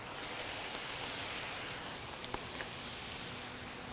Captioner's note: griddle sizzling